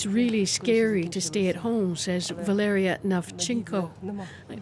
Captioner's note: speaking alternate language